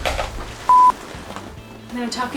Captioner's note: beep